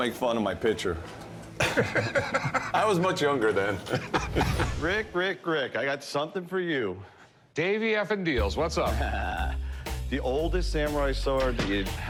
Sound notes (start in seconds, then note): 1.6 both laughing; 4.1 laughs